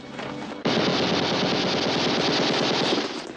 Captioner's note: rapid gunfire